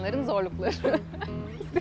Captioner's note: laughing